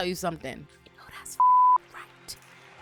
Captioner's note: beep